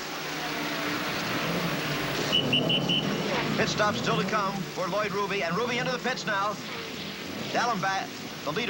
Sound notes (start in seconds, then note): 2.2 whistle blows